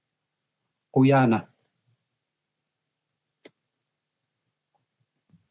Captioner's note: speaking in Native language